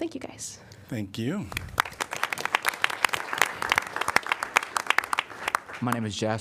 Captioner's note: applause